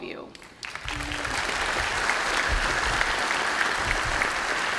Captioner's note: applause